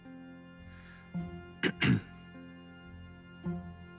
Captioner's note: clears throat